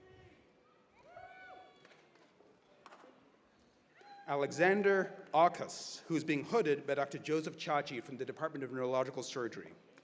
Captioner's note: cheers and applause